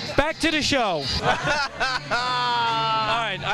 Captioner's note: laughing